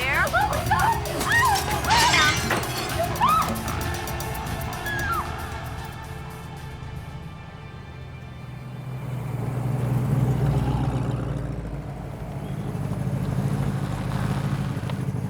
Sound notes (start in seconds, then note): 0.2 screaming; 2.9 glass shattering; 4.8 Nina screams